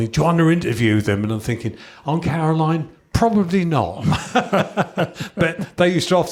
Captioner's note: chuckles